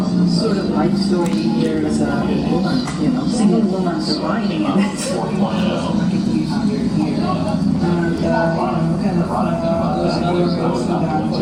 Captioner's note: female speaker in English